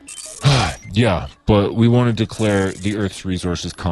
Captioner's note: sigh